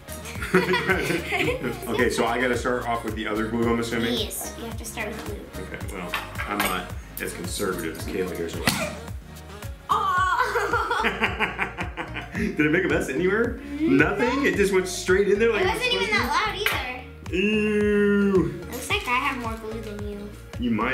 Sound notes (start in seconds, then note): 0.2 laughing; 8.6 balloon pop; 9.9 gasp; 9.9 laughing